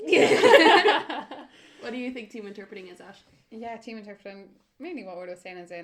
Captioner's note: laughter